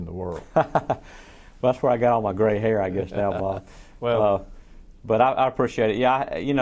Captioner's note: laughs